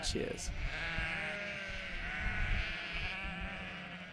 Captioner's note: sheep bleat